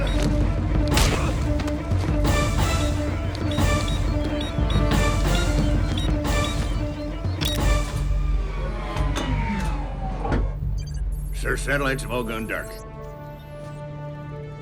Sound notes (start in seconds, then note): 8.3 powering down